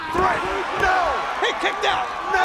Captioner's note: crowd cheering